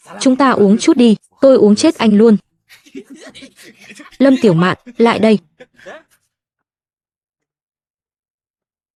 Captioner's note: tiếng cười